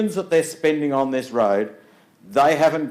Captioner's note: none